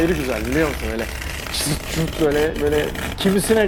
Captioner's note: tape sounds